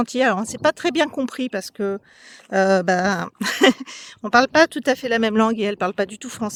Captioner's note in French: rires